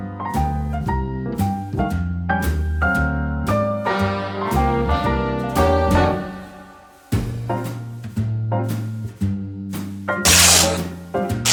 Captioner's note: fabric ripping